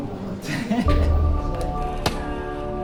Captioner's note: laughing